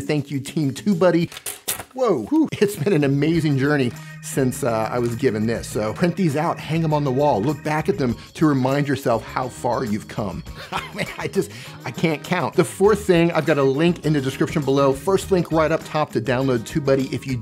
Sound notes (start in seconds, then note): 10.5 laughing